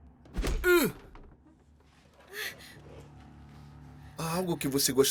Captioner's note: punch thudding